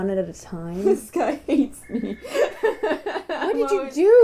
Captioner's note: laughter; laughing